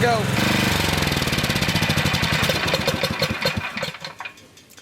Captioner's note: engine shuts down